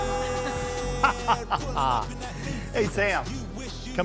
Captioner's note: hip hop music; laughs